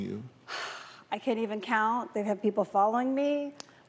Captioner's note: sighs